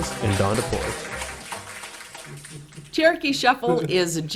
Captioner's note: people clap